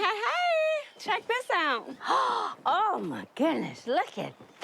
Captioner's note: gasps